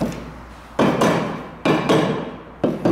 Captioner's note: hammer Pounding